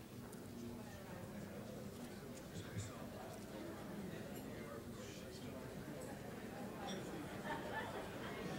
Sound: collective chatter

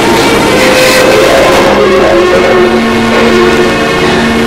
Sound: cries

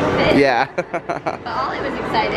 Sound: laughs

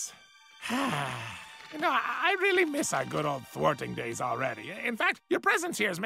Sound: sighs

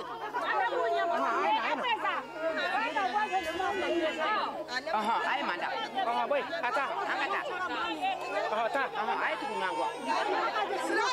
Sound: children crying

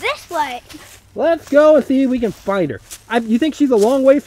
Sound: voiceover

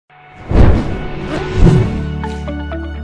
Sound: words whooshing; upbeat music

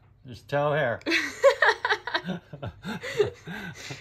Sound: laughs

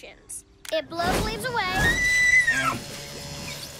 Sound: shrieks

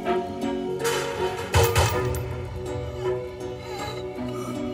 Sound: guns firing

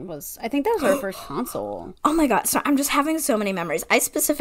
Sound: gasp

